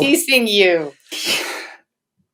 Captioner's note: laughs